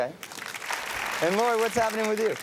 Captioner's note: audience cheers and applauds